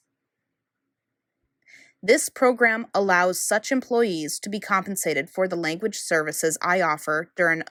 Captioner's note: Mandarin